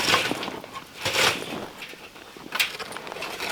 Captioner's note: scraping